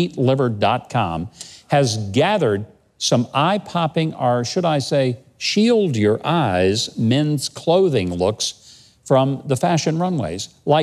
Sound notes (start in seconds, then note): none